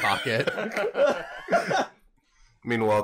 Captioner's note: laughter